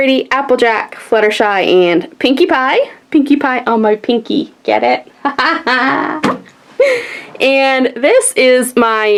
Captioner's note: laughs